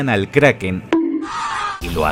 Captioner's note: bonk